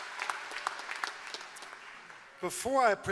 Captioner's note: applause